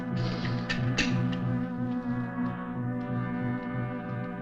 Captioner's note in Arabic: نقرات القفل